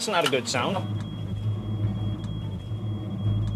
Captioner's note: alarm beeping